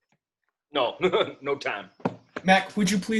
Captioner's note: laughs